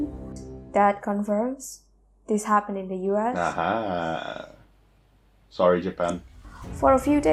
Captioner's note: haha